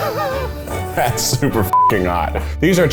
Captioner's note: laughs; beep